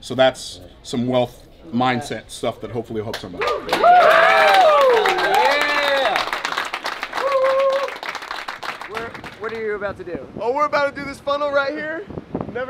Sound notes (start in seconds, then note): 3.3 cheering and clapping